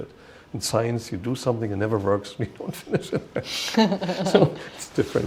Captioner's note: chuckle